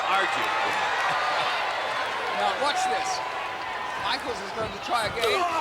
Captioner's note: crowd cheering